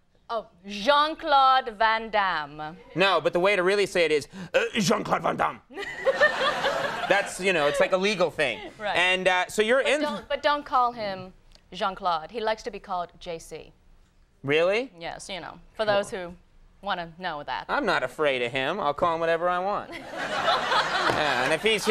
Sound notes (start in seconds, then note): 5.7 Ming-Na laughs; 5.8 audience laughs; 20.0 audience laughs; 20.6 Ming-Na laughs